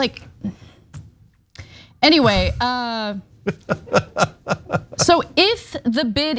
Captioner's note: laugh